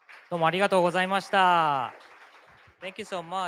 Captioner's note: speaking japanese